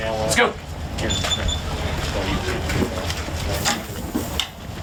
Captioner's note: beeping sound